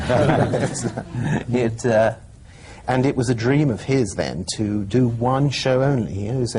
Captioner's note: laughter